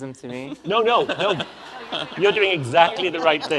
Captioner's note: audience laughs